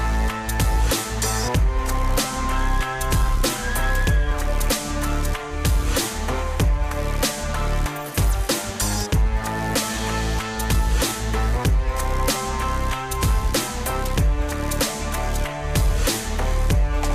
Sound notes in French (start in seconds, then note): 1.9 elle crie